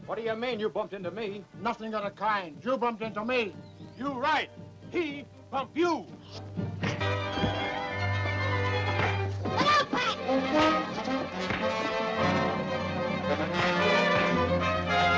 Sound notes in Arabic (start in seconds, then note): 5.9 صفع; 6.6 موسيقى أوركسترا مثيرة